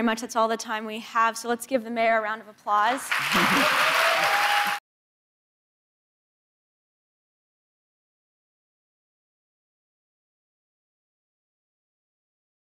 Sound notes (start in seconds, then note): 3.0 audience cheers and applauds